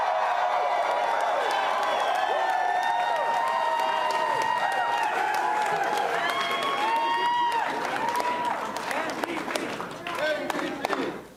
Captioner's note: applause and cheering